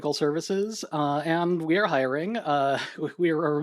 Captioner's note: chuckles